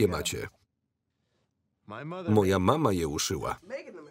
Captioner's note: breath